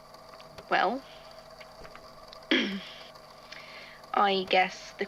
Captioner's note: clears throat